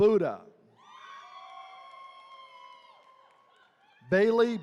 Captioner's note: attendees cheering